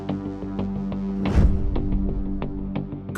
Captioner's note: whooshing